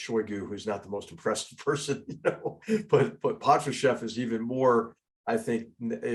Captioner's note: laugh